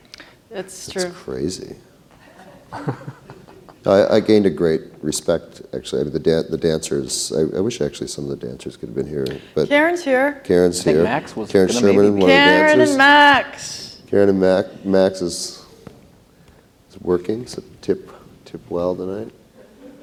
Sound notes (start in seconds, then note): 11.6 calls; 19.6 laughter